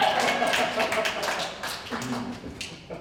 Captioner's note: ensemble cheers; Barbicane laughs